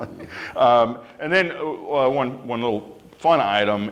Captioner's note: laughter